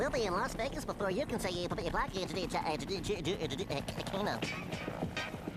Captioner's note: stuttering